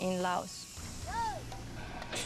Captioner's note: mahout shouting